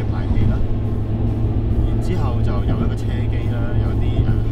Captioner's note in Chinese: 汽車音響